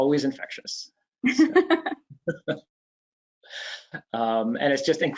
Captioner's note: laughing